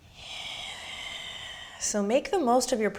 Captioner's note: deep breathing